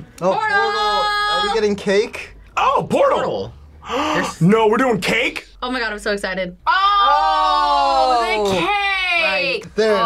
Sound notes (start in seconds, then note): 3.8 gasps